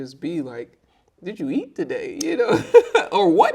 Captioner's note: laughing